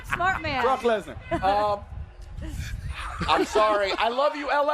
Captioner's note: laughter; laughter